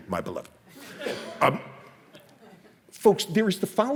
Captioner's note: audience laughs